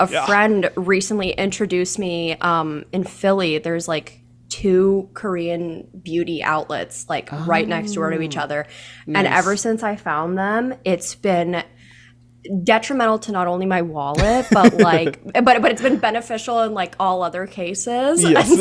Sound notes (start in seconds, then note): 14.1 laughs